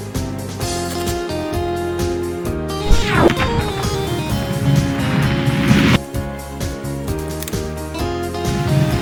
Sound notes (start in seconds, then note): 2.8 atmosphere whooshing; 4.8 ground rumbling